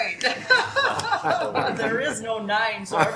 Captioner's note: laughter